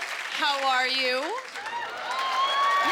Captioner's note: cheers and applause